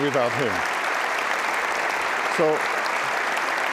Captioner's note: applause